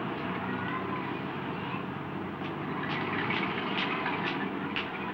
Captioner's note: children murmuring